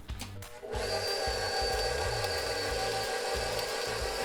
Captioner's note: mixer whirring